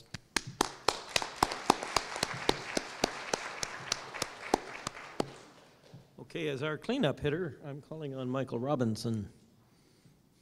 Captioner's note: applause